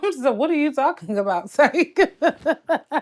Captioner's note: laughs